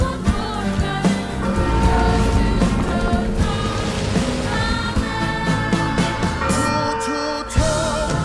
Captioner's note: bell pealing